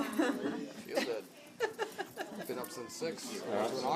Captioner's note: laughing